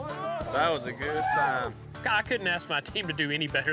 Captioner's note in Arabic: الجميع يهتفون